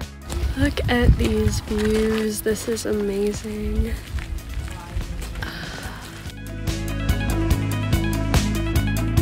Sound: dramatic sigh

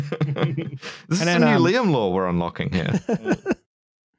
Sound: laughter; laughter

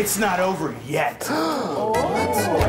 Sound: crowd gasps; crowd chants and claps

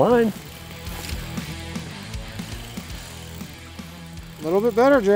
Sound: fishing line whines

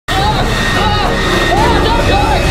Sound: shouts

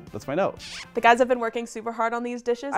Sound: kissing

